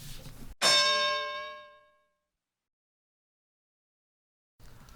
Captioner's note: bell